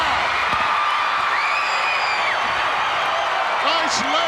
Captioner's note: crowd cheering